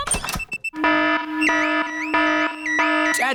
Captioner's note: alarm blaring